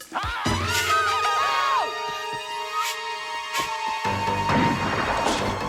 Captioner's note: man yelling; Taryn screaming; gun firing; dramatic music